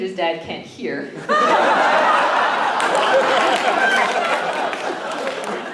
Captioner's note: laughter